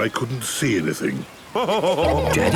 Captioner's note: laughing